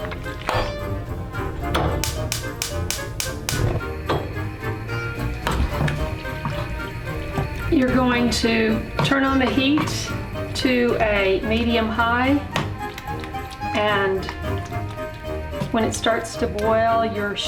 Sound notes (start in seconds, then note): 1.9 gas burner ignites, click, click, click